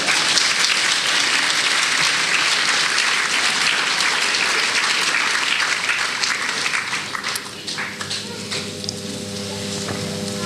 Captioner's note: applause